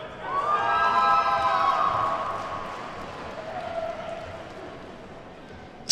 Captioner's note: attendees whooping and clapping